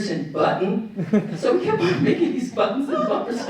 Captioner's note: laughter